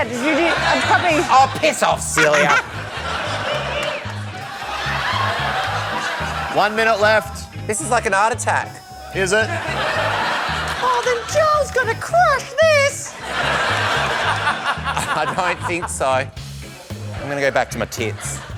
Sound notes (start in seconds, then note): 4.5 laughter; 9.4 laughter; 11.0 falsetto; 12.6 laughter